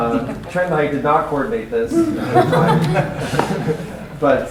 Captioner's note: laughter